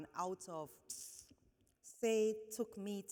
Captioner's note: steuping